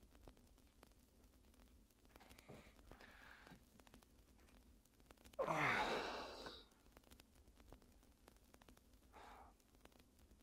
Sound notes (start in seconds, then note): 5.4 Ezra sighs